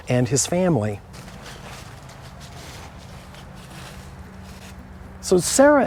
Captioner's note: walking